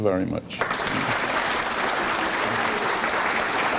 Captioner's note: applause